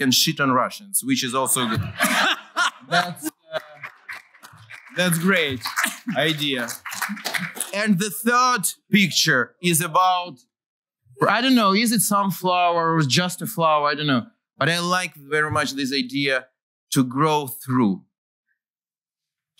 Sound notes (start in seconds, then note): 1.6 laughter; 3.0 applause